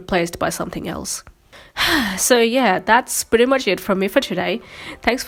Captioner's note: sighs